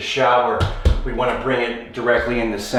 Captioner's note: taps floor